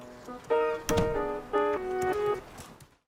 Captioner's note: door closes, music ends